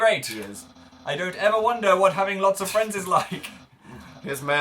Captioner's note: both chuckle